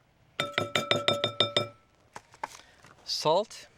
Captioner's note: glass bowl rattling